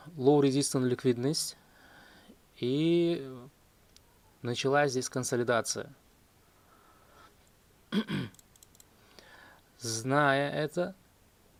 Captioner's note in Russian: кашель; откашливается